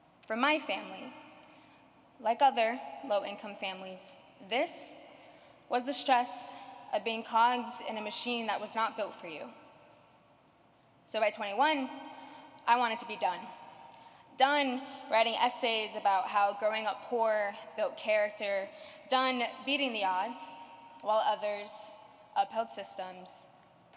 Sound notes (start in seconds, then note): none